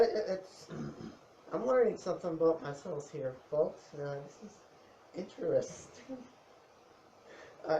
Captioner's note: laughs